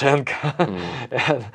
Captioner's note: laughs